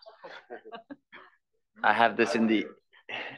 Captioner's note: laugh